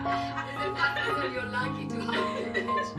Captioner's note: laughter